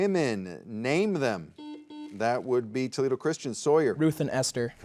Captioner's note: soft beeping